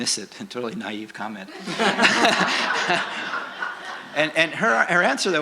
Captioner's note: laughter